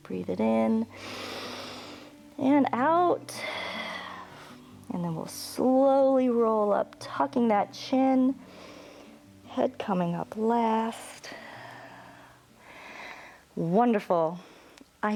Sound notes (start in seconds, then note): 0.9 inhales; 3.7 exhales; 8.4 inhales